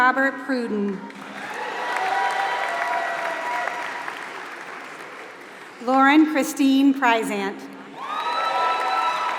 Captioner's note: applause; applause